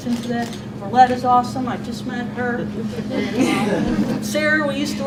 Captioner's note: audience and panel board giggles